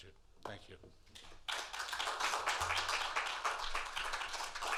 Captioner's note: applause